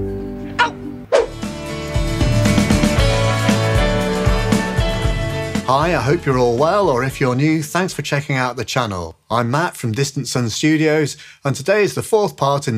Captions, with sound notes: Oh! (whoosh sfx) (inspirational music) - Hi. I hope you're all well. Or if you're new, thanks for checking out the channel. I'm Matt from Distant Sun Studios, and today's the fourth part